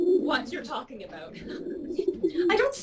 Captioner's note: pigeon sounds